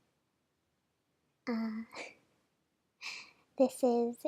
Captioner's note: laugh